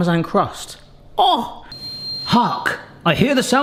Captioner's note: oven beeping